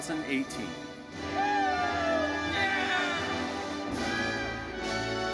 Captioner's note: audience cheering